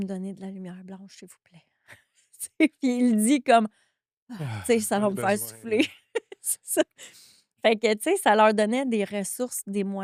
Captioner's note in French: rires